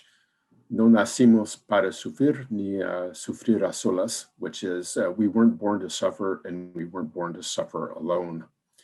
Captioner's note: spanish words